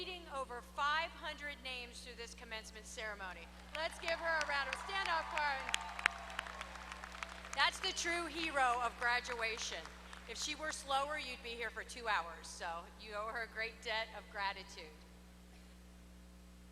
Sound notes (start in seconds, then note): 3.4 applause